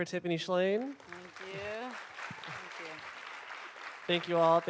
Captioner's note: applause